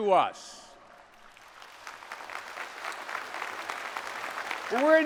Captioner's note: applause